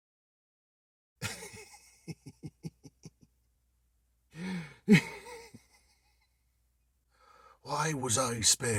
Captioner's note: uncontrollable giggling